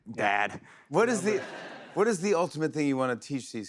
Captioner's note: laughter